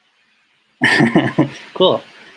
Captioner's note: laughs